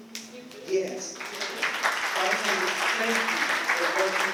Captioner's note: applause